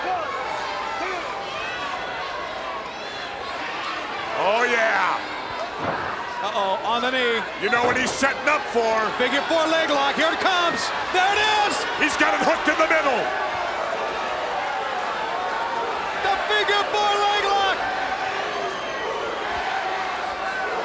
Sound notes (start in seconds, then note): 2.0 crowd cheering; 13.9 crowd cheering